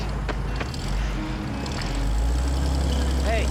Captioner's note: engine revving